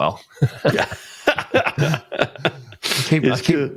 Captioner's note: laughs